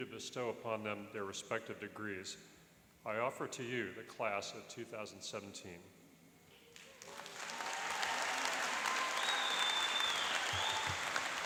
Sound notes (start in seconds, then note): 6.7 applauding and cheering